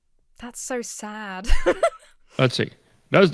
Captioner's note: laughs